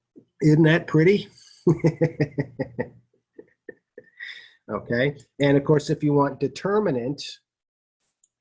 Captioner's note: laughter